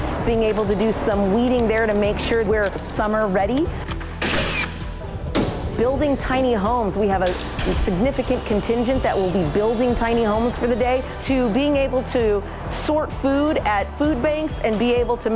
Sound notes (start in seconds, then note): 4.2 nail gun; 5.3 hammering